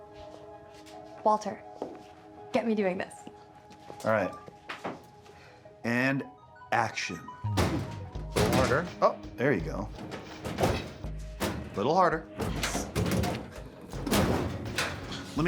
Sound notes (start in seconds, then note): 6.5 cabinet rattling; 13.3 cabinet rattling